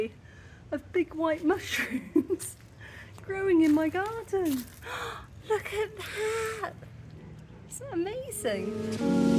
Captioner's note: gasp